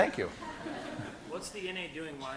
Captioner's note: class laughing